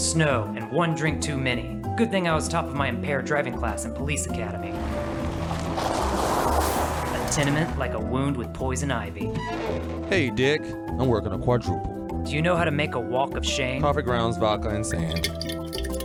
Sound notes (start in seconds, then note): 4.5 pulling up in gravel; 9.3 door opening